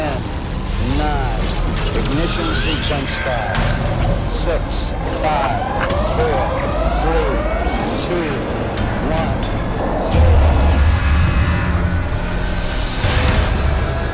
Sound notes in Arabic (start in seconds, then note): 0.3 صوت مشوه; 8.4 صوت صفارات الإنذار